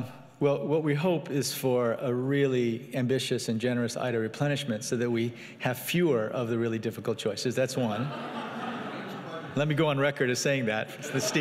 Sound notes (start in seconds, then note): 7.9 audience laughing